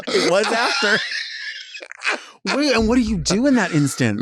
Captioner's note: Latrice laughing